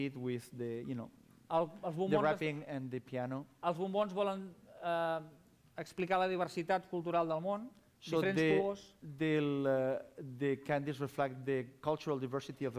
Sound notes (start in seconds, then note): 5.5 non-english speech